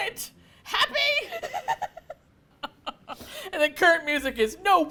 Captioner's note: laughs